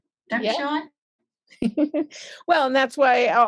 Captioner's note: chuckles